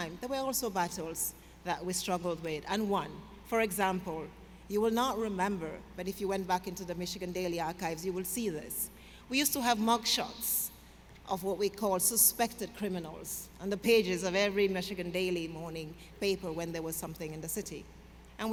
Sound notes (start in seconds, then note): none